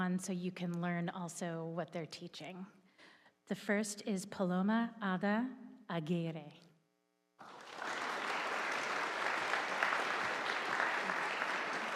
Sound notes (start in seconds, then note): 7.4 audience applauding